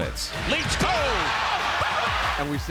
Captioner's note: crowd cheering